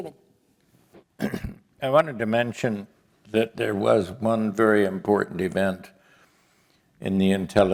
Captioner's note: cough